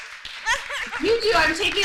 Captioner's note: applause